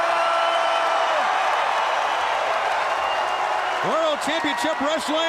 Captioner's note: crowd cheering